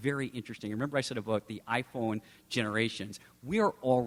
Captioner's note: none